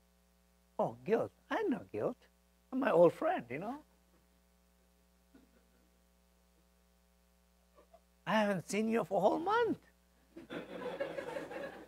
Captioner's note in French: l'audience rit